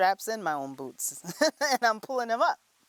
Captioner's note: laughter